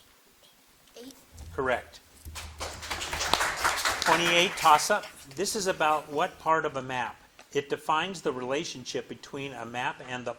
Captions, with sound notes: - Eight. - Correct. (audience clapping) 28, toss-up. This is about what part of a map? It defines the relationship between a map and the part-